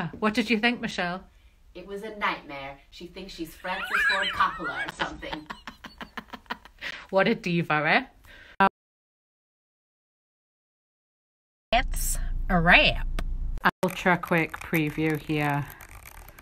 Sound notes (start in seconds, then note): 3.6 laughing